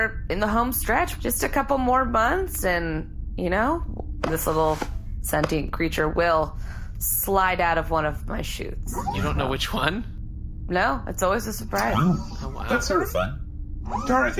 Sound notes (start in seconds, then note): 8.4 laughing